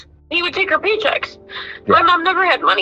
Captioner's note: on phone